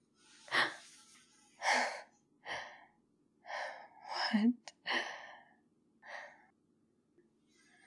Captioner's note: breathless; gasp